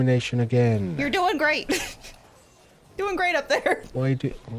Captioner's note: chuckling